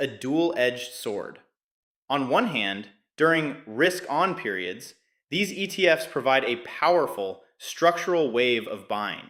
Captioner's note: excited